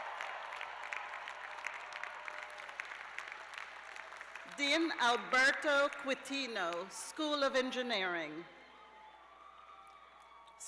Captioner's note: cheers and applause